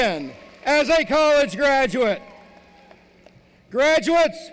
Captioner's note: cheering